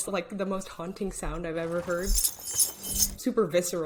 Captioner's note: rings jingling